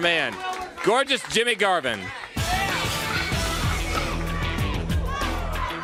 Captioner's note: crowd chatter